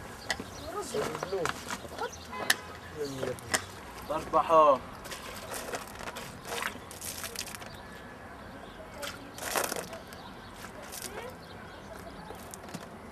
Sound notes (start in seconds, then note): 5.0 water splashes